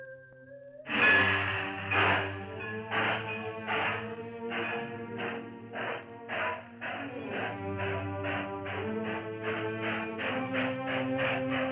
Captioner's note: train rumbling